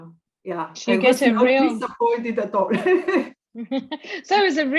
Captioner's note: laugh